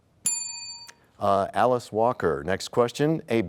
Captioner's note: bell rings, time expires